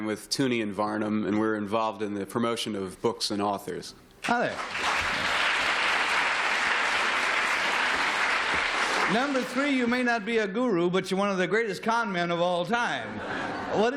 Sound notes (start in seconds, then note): 4.2 applause